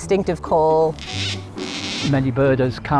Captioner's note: cockatoo calls